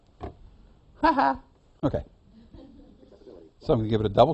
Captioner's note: laughs